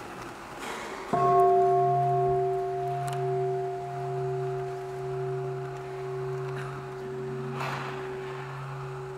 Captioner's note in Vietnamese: chuông